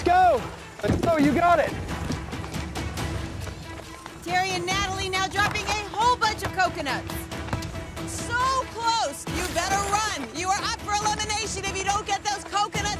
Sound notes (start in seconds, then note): none